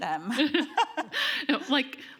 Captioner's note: laughs